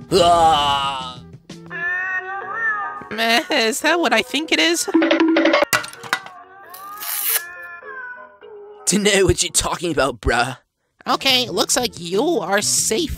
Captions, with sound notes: AAAHHHHH!! [Cats meowing the "Happy Birthday" song] Mehh- Is that what I think it is? [Cartoon Running Sound] [Paper Ripping] [Meowing Slows Down] Dunno what you're talking about bruh Okay, looks like you are safe!